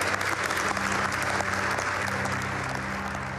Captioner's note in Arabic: تصفيق